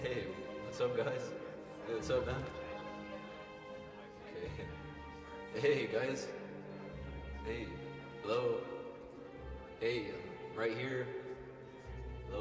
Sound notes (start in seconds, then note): 2.8 murmuring